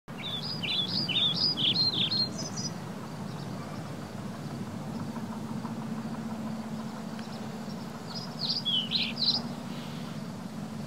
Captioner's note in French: bruit d'oiseaux